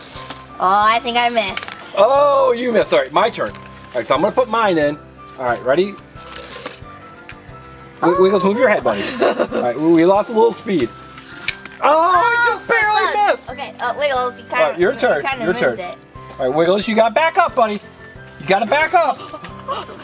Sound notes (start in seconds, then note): 8.0 assistant laughing; 11.8 both call out in excitement; 19.8 both call out in excitement